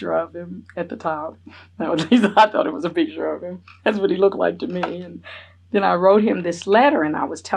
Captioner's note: laughs